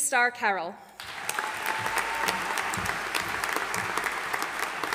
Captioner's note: audience applauding